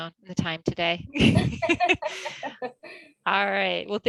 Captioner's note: both laughs